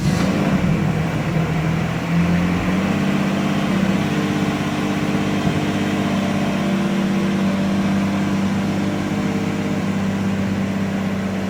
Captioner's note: engine noise